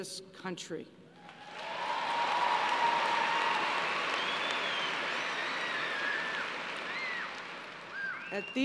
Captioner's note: cheers and applause